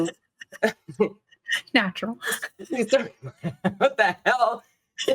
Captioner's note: cast members laughing